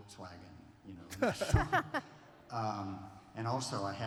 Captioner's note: laughter